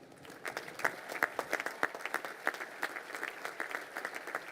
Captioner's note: crowd applauding